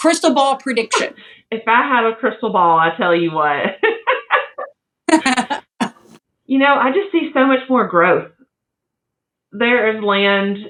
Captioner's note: laugh